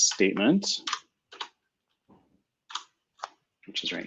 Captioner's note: typing